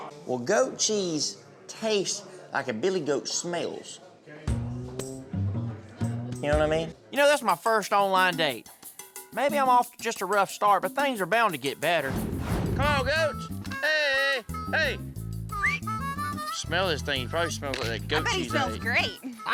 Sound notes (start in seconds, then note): 15.5 whistles